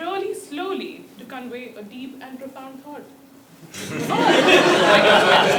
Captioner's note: laugh